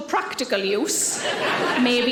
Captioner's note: audience laughing